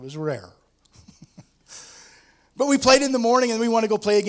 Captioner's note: laughs